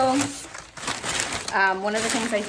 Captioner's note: paper crinkling